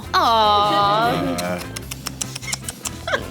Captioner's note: sighing